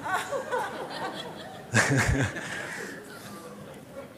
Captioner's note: Laughter; 笑聲